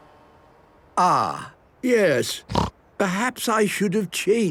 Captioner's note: snorting